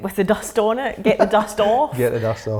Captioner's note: laughing